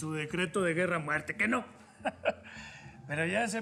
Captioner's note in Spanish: risas